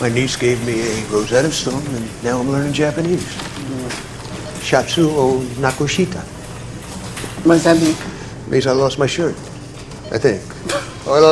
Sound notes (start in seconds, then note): 4.5 speaks Japanese